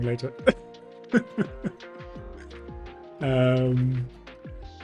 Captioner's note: laughs